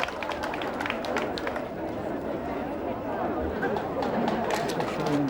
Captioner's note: distant chattering